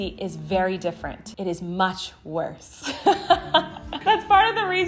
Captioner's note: laughs